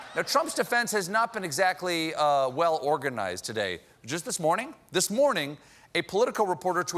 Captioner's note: laughter